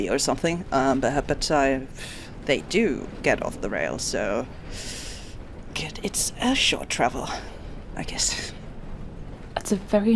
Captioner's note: shaky breath